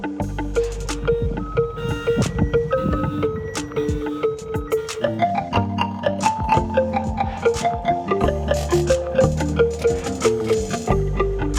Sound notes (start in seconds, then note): 0.7 car alarm blaring